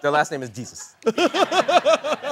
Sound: laughter

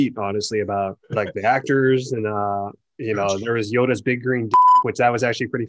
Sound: beep

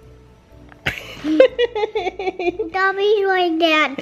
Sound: laughs

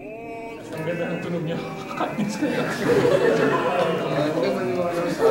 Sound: laughs

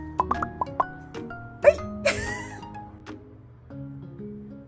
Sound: bubble pops

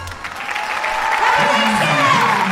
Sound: audience cheers

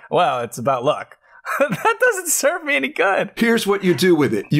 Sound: laughter

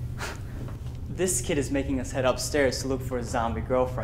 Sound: scoffs

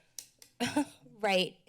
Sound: chuckles

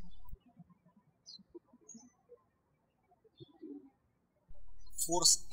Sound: birds chirping

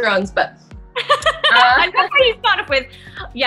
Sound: laughter

